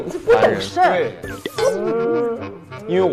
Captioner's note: crying